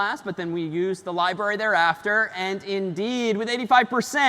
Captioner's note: none